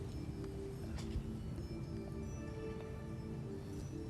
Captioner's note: whispering